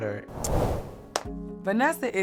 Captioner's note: claps